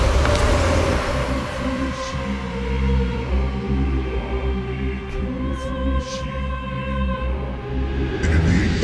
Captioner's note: chanting